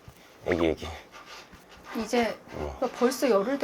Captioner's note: pat, pat